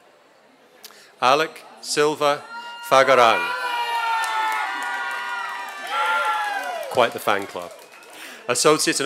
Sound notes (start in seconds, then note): 3.6 applause and cheers